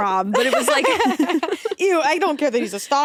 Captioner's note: both laughing